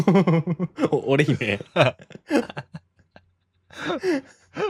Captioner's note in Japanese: 笑い